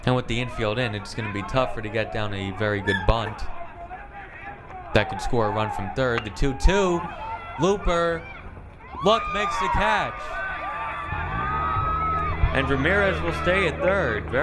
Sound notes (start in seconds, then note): 10.6 crowd cheering